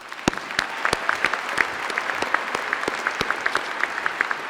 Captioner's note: applause